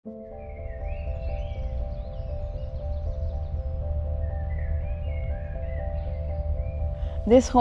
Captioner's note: birds chirping